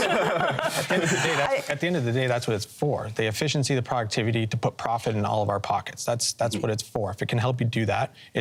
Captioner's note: laughter